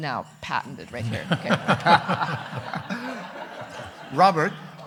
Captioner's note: everyone laughing